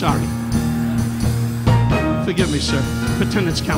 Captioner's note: audience laughing